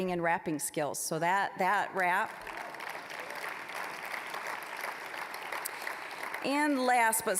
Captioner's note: applause